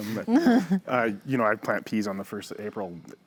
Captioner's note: chuckles